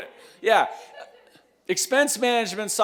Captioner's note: laughs